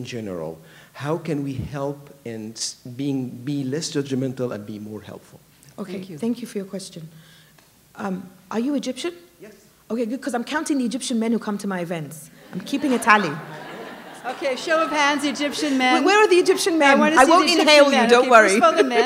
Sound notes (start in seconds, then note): 12.4 laughter